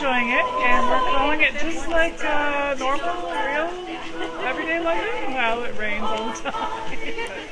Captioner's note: laughs